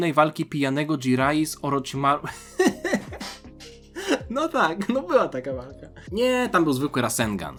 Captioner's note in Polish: śmiech